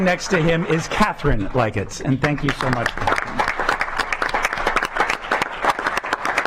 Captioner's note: clapping